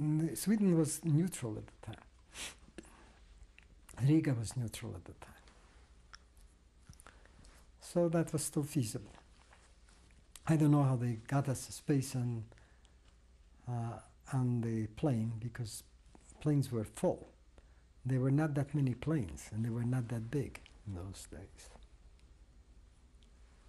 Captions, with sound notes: Sweden was neutral at the time. Riga was neutral at the time. [PAUSES FOR 3 SECONDS] So that was still feasible. I don't know how they got us a space on, on the plane, because planes were full. There were not that many planes, and they were not that big in those days. [PAUSES FOR 6 SECONDS]